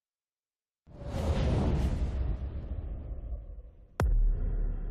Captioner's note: logo whooshing